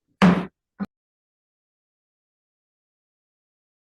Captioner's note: gavel bangs